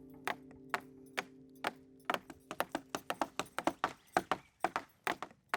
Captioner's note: builders hammering wood